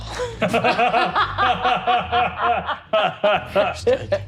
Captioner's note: all laughing